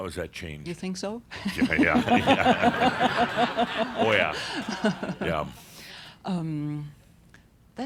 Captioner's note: they chuckle